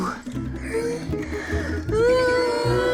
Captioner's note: maria groaning; everybody groaning